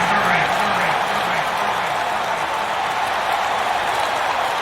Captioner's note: crowd cheering